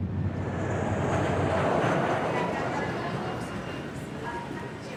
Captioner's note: jet engine roaring